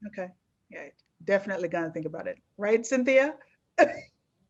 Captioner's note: laughs